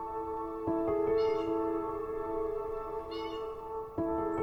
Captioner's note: birds calling